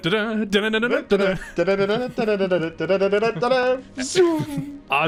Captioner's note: humming popeye theme